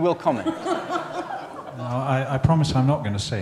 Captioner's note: laughter